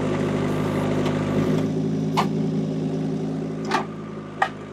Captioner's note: engine revving